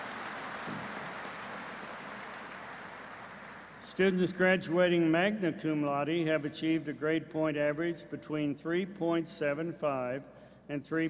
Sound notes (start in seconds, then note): 1.7 applause